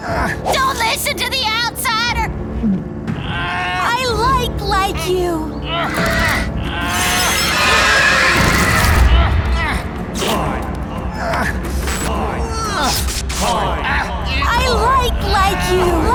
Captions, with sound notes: -Don't listen to the outsider. -[strains] I like-like you. [screech] Corn. Corn. -Corn. -I like-like you.